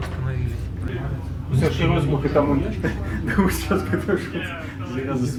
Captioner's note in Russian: смех